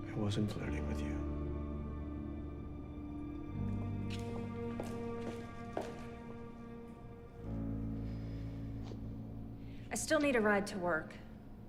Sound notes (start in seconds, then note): 2.2 gentle music; 4.0 shoes clacking